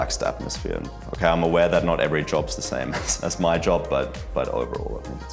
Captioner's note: chuckles